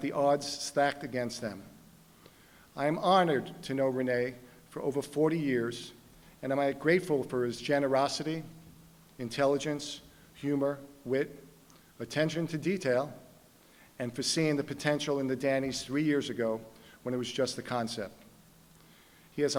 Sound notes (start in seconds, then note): none